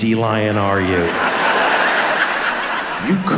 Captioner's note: audience laughs